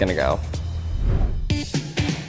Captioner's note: sign whooshing